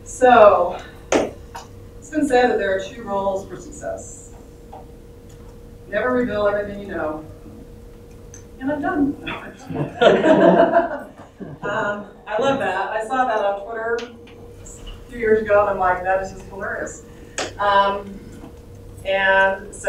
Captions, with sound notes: So, since then there are two roles for success. Never reveal everything you know and have done [laugther]. I love that. I saw that on Twitter a few years ago and I'm like that is just hilarious.